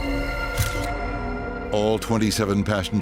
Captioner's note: sinister music; camera clicking